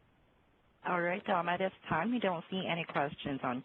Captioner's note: voiceover